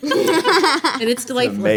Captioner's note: laughing